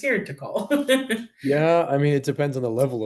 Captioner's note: laughing